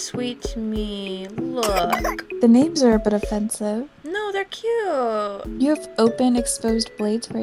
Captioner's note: baby coughing